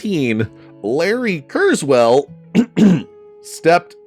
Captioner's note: clears throat